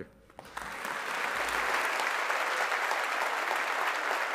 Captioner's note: audience applauding